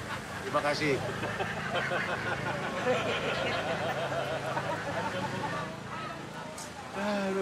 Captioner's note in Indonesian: ramai-ramai tertawa terbahak-bahak